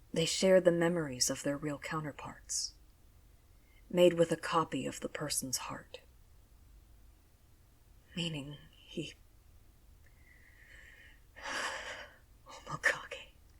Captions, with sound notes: They share the memories of their real counterparts, made with a copy of the person’s heart Meaning he… *Shaky breath* Omakage…